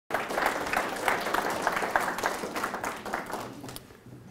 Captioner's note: audience applauds